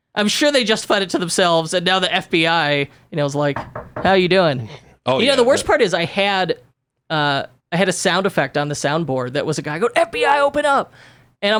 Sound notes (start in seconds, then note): 3.5 knocking table